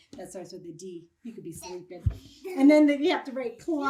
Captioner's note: kids laugh